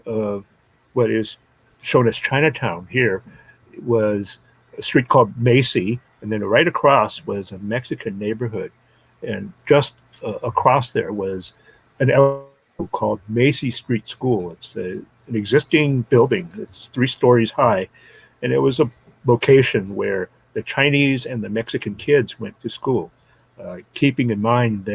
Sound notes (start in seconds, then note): 10.2 audio glitch